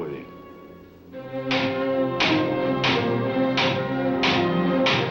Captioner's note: thumping